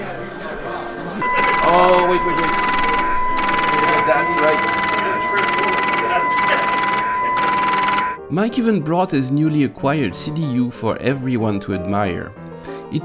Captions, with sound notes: [Paper tape reader clicking] Mike even brought his newly acquired CDU for everyone to admire.